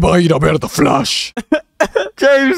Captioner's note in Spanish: llora en antihawaiano